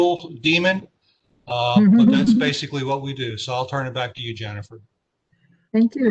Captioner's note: laughter